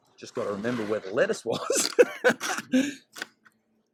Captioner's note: laughs